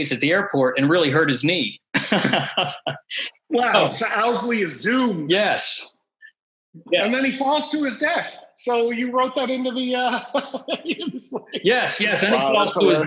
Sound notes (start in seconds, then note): 1.9 laughs; 9.9 laughs